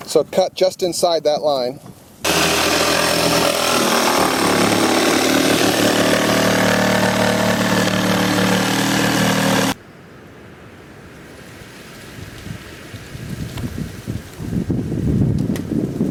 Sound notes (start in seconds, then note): 2.2 jigsaw whirring; 10.9 wind rustling